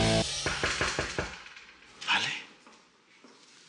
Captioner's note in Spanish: Toques en la puerta